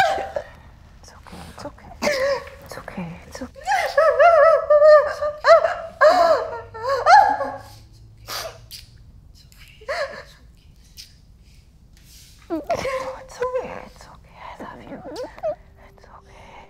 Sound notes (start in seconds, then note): 3.2 sobbing hysterically; 6.4 continues sobbing